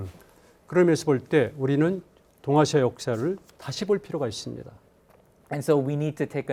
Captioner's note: speaking in Korean